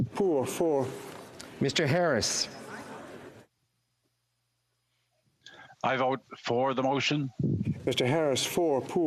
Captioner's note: speaking FRENCH